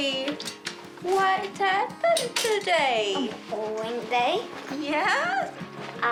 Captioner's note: chuckles